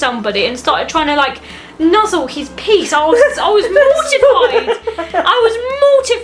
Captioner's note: mother laughs again